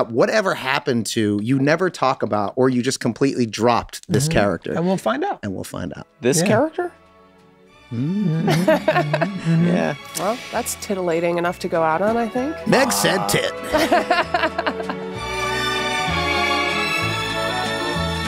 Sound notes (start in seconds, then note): 8.3 chuckles; 12.7 laughs; 15.2 cheerful music